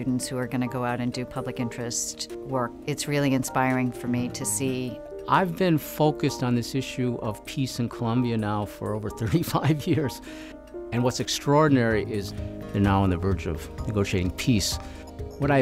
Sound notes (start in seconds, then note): 10.3 laughs